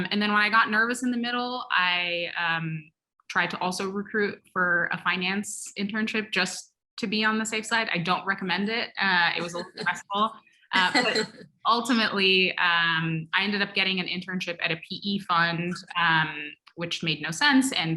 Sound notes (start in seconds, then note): 10.8 laugh